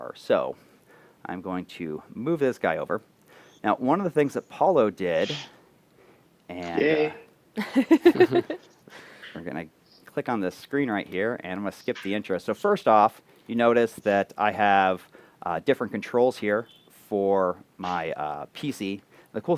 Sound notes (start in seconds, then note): 7.6 laughter